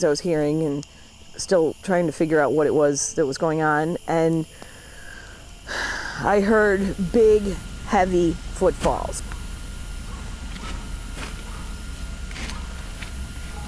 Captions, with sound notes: I was hearing, and still trying to figure out what it was that was going on and, (sighs) , I heard big, heavy footfalls. (rustling)